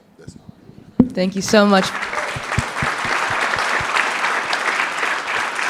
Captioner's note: audience clapping